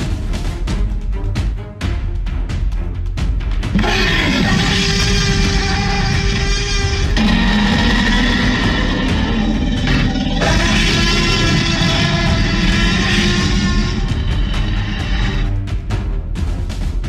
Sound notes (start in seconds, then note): 6.2 tyrannosaurus roaring